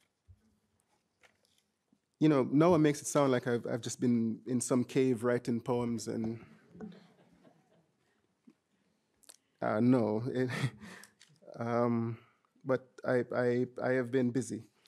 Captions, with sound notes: you know, Noah makes it sound like I've been in some cave, writing poems, (audience chuckling) and no, (chuckles), but I have been busy